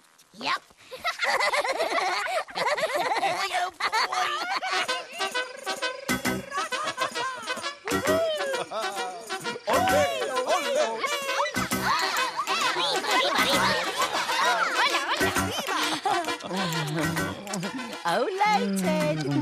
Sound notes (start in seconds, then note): 1.3 giggle; 3.5 chuckle; 6.4 laughter